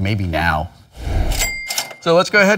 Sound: cash register cha-ching

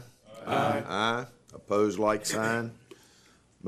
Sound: chorus of ayes

